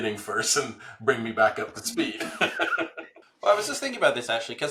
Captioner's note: laughs